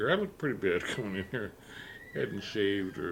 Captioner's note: chuckles